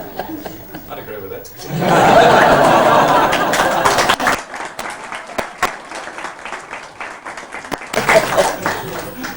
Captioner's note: laughter n clapping